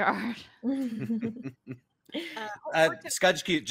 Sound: chuckles

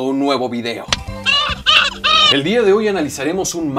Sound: crying Baby

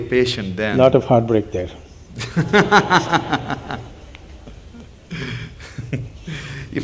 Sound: Devi Shetty laughs

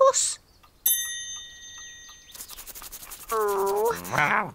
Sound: all mutter

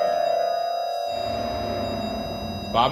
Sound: dark dramatic music; REM-Pod beeping

